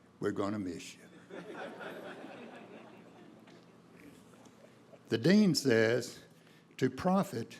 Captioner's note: laughter